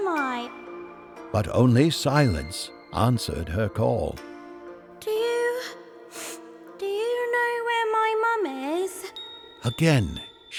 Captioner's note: sniff